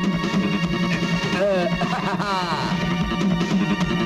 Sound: laughs

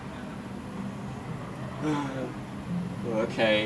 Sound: Arthur sighs

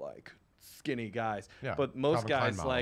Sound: mumbles

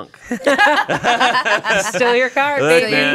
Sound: everyone laughs

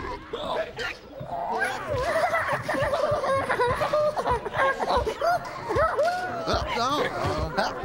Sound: loud hiccups echoing; everyone hiccuping

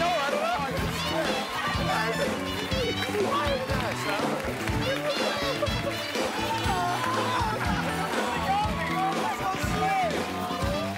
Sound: cheers and applause

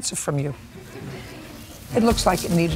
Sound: laughter

